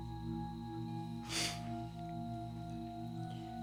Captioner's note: sniffles